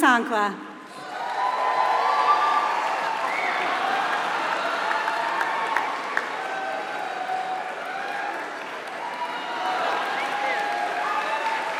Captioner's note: applause